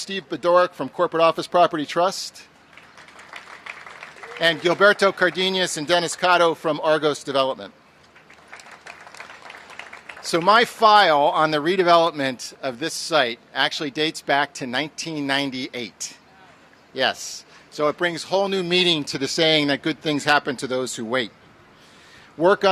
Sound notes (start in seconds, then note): 2.6 applause; 8.1 applause